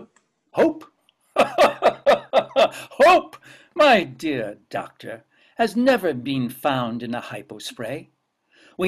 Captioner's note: laughs